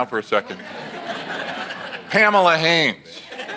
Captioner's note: audience laughs